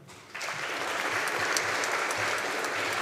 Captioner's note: audience applauding